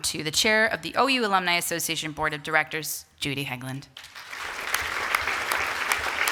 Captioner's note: applause